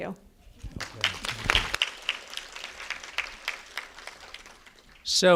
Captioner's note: applause